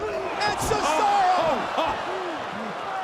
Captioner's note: laugh